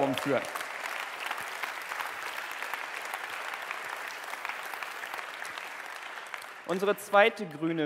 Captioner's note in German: Applaus